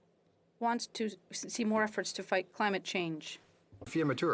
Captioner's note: speaking French